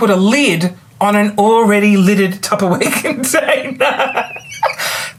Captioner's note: laughs